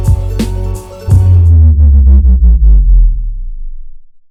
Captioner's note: audio distorting